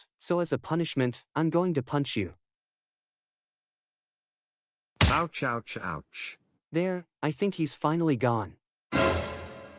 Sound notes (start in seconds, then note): 5.0 punch; 9.0 dun!